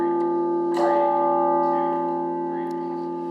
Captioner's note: bell rings